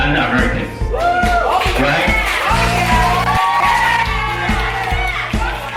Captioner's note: clapping and cheering